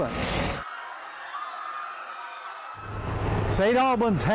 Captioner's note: people screaming